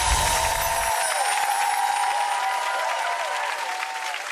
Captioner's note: audience cheers; soft jingles